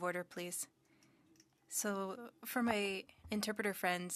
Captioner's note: speaking French